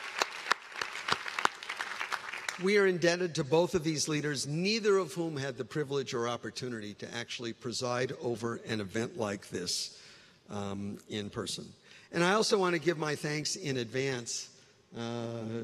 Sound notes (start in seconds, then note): 0.0 cheers and applause; 3.1 applause